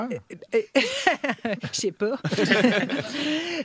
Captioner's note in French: rires; rire